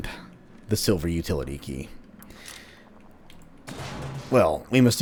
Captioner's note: vent smash